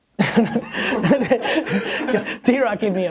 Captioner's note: chuckles